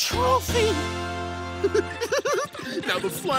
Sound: giggling

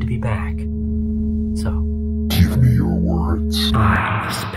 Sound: totally normal voice

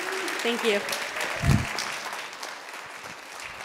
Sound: applause

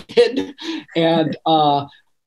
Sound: laughing

